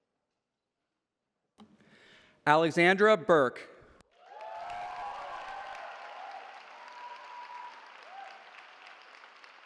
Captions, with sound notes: Alexandra Berke. [CHEERING]